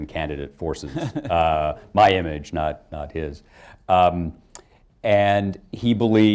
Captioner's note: laughter